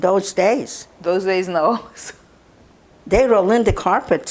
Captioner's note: laughing